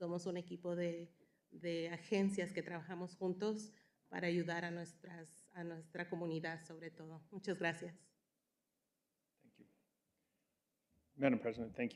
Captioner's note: speaking in spanish